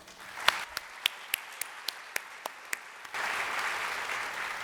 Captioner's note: audience applauding